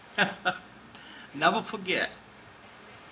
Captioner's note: chuckles